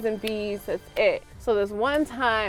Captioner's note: clapping hands